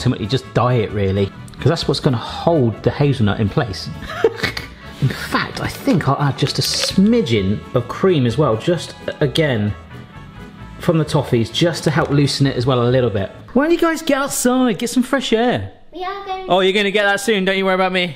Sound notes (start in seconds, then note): 4.0 laughing